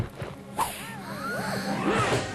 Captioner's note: gasping